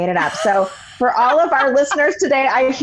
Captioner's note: laughing